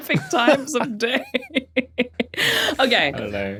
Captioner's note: giggles